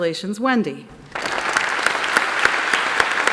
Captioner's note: applause